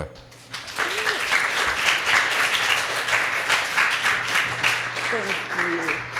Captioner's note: applause